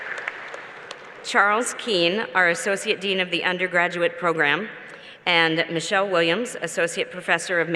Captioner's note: cheers and Applause